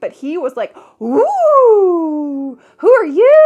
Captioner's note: howling